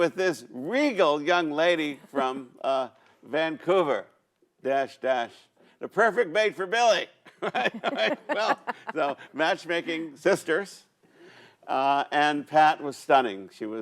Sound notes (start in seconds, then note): 7.4 laughs